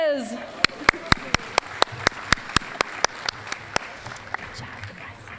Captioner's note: applause